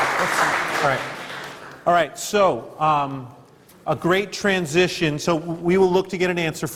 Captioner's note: applause